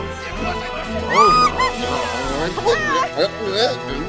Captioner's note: Betty screaming; dramatic orchestral music